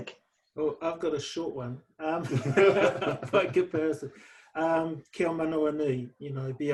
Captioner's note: laughter